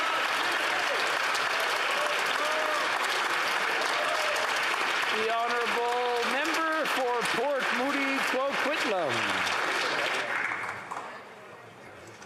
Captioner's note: applause